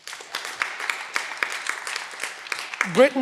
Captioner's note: cheering